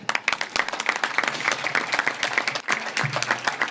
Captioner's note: audience claps